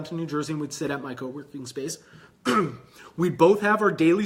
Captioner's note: clears throat